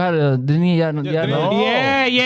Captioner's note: speaking In Foreign Language